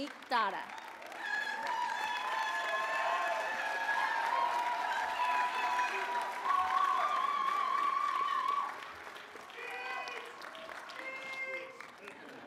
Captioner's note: applause